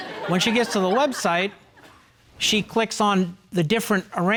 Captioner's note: audience chuckling